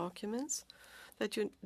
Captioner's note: speaking French